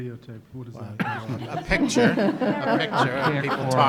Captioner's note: laughing